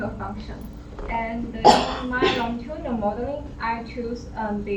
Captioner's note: cough drowns speech